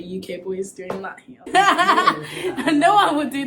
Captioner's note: laughs